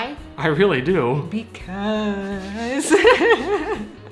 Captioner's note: creepily